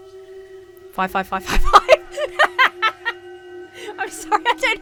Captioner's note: laughs